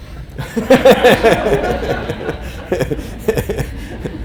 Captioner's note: group laughing